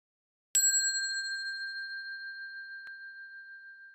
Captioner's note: bell dings